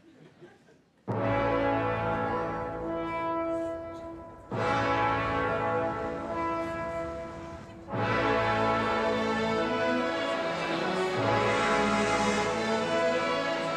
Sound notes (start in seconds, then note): 1.0 dramatic orchestra music; 7.6 audience laughs